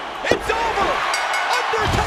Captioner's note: bell rings